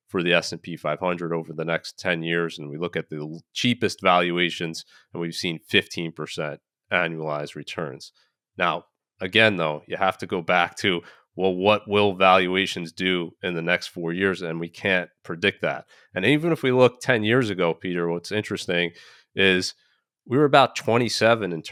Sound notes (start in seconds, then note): none